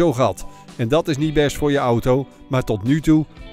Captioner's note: voiceover